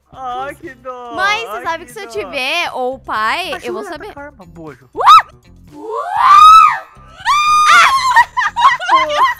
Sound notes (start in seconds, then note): 5.8 screams; 5.8 scream in slow motion; 5.8 screams; 7.8 laughter on the background